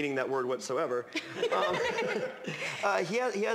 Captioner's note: laughter